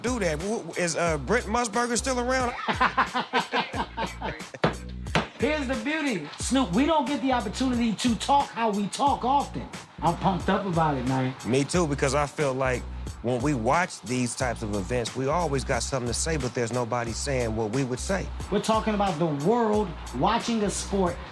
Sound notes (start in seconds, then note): 2.4 both laugh